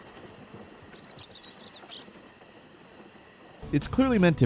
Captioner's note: birds singing